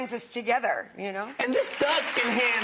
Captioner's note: audience applauds